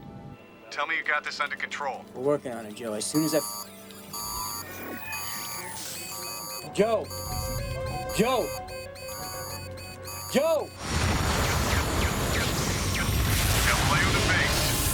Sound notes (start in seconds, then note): 8.8 alarm; 10.9 gunshot